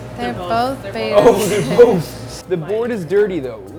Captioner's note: laughs